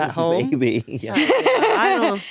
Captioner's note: laughs